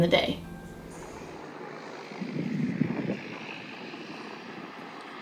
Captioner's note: boat engines hum